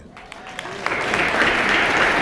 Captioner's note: applause